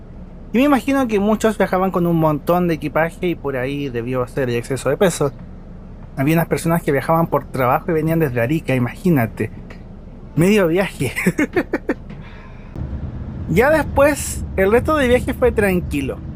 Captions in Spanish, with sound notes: yo imagino que varios viajaban con mucho equipaje y por ahí quedamos con exceso de peso había trabajadores que venían viajando desde Arica, ¡imagina! ¡medio viaje! (risas) ya después, el resto del viaje fue tranquilo